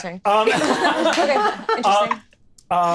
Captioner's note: all laughing